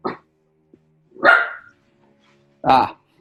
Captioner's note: dog grunting; barks; laughs